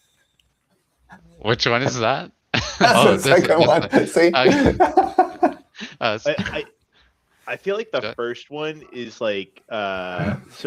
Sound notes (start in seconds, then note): 5.0 laughs